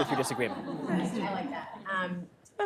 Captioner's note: laughter